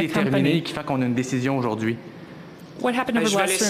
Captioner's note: speaking FRENCH